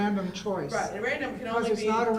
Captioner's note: voiceover